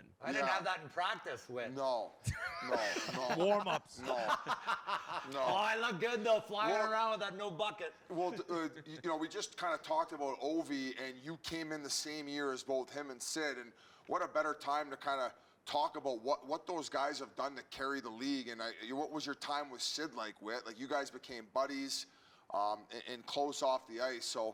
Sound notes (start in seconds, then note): 4.5 laughing